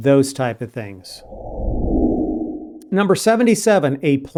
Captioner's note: whooshing